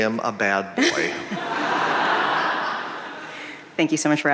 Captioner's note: audience laughing